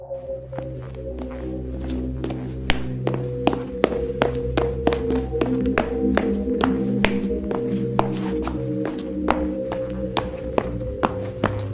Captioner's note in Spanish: Pasos de alguien Corriendo